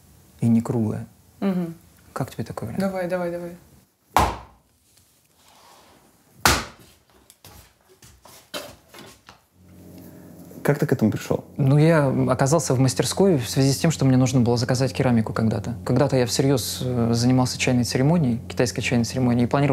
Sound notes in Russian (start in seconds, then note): 4.2 шлепок; 6.4 шлепок; 7.4 серия резких режущих звуков